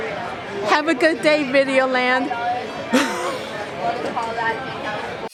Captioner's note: chuckles